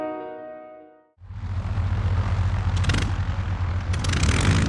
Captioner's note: engine revving